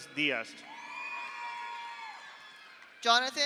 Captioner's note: audience cheers; audience applauds